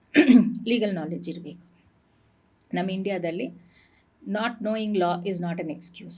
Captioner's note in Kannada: ಗಂಟಲು ಸರಿಮಾಡಿಕೊಳ್ಳುವಿಕೆ